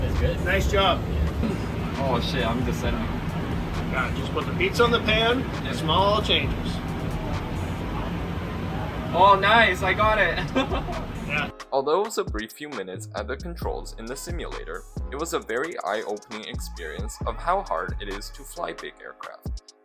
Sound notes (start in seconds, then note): 10.2 chuckles